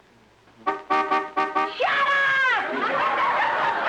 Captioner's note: car honking